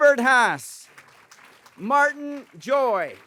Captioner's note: applause